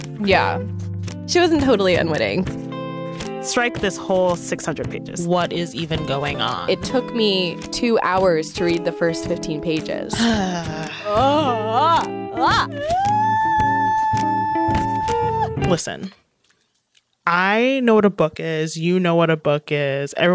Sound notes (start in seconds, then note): 10.2 groans; 12.8 squeals